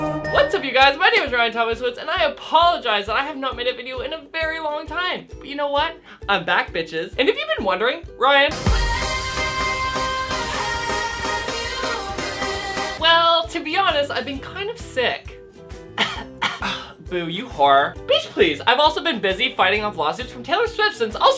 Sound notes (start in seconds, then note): 8.5 sings; 15.9 coughs